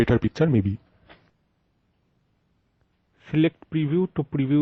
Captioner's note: no audio / sound